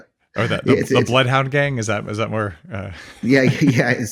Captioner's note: laughs